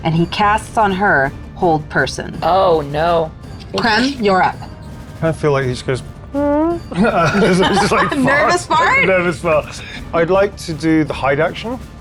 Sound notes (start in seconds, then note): 6.8 laughs; 7.3 squeaks